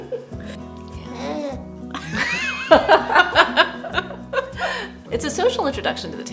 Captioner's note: happy baby squeal; laughter